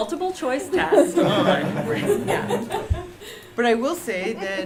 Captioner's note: laughter